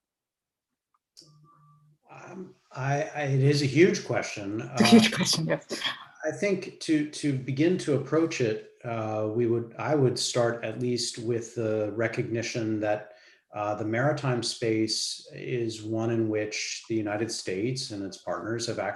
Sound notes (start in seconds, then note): 4.8 laughing